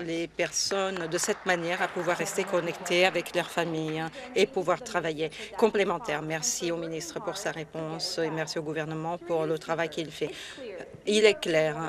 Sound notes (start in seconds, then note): 3.8 applause